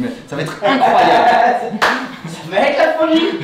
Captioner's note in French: rires